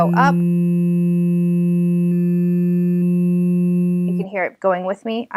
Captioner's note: electronic buzzing